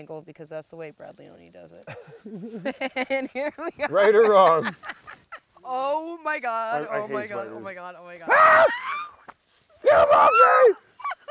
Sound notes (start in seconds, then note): 9.8 both screams; 11.0 screams then chuckles